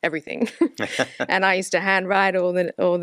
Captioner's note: laughs